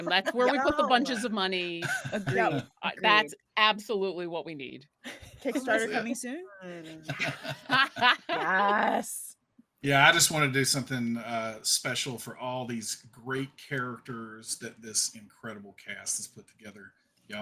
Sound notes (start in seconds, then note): 6.9 cast laughing